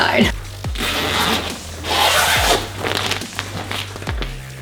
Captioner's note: zip hissing